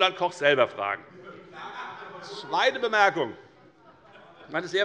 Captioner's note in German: Heiterkeit bei der FDP und bei Abgeordneten der SPD